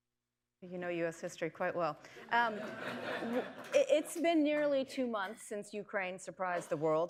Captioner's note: laughter